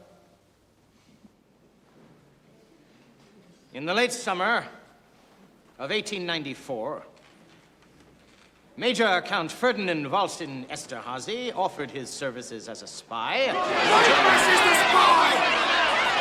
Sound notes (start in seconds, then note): 13.4 clamoring